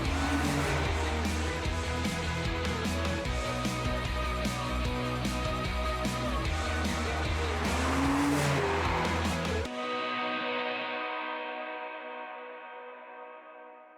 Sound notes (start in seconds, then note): 0.0 car engine revving; 3.2 upbeat music; 7.6 car engine revving